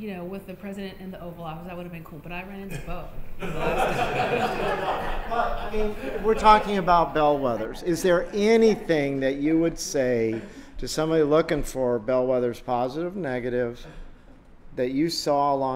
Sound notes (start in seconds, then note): 3.4 laughter